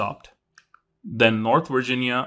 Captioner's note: remote clicking